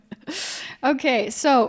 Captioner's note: chuckles